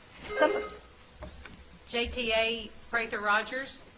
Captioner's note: bell ringing